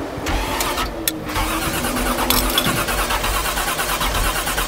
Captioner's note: engine sputtering